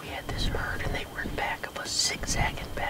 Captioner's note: none